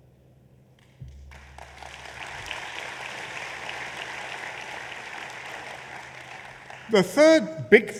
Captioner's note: applause